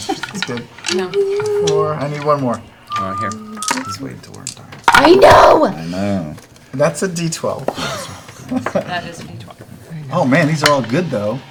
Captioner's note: laughs